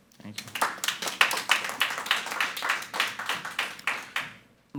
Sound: everyone applauding

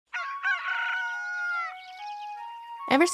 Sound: rooster crowing

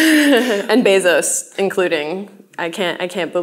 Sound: laughs

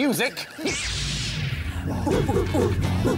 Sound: zap

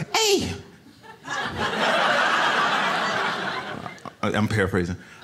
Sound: audience laughs

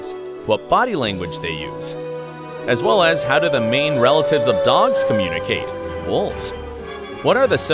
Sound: excited

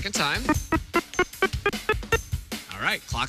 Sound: beeping

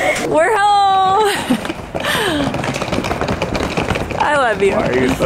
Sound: kids giggling; laughs

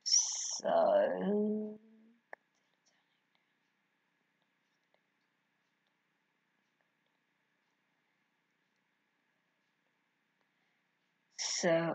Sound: more dead silence

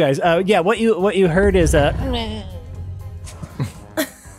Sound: faint groan

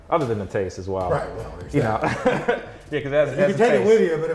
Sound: laughs

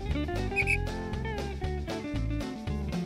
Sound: whistle blows; upbeat country music

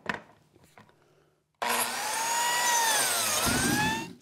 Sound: machine whirring

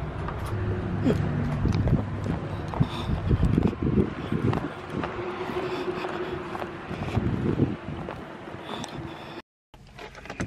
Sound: footsteps

